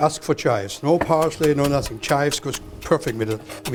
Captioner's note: chopping